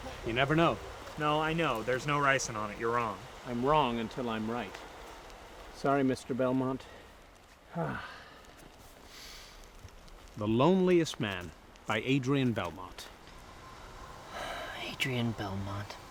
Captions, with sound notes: You never know. [ CREEPY MUSIC ENDS ] No, I know there's no ricin on it, you're wrong. I'm wrong until I'm right. Sorry, Mr. Belmont. [ SIGHS, INHALES ] The Loneliest Man, by Adrian Belmont. [ SIGHS ] Adrian Belmont.